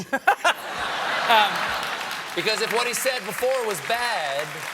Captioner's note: applause